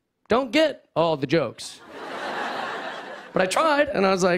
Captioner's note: laughter